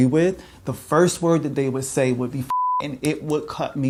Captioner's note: beep